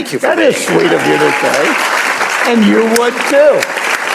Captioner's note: applause